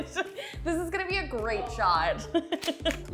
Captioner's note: laughs